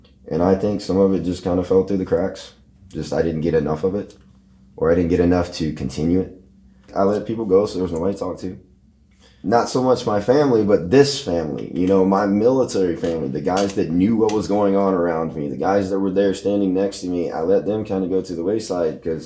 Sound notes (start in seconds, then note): none